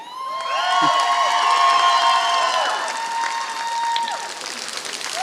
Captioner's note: applause